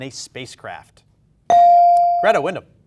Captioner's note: bell dings